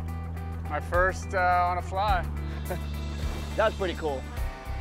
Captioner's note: chuckles